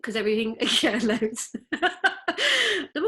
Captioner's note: laughs